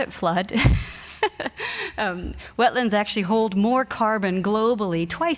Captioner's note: laughs